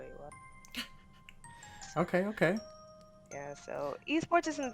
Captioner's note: laughs